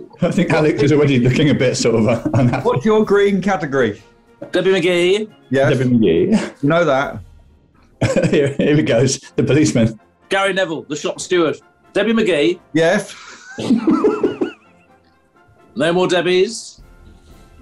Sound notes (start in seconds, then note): 8.0 laughing; 13.1 giggling